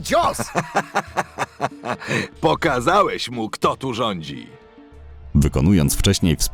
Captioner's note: laugh